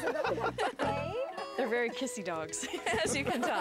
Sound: laughing

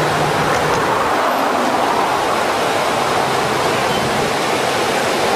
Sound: water rushing loudly

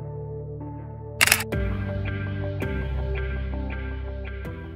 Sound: camera clicks

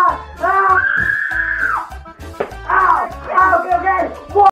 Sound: Continued cries of Camillo

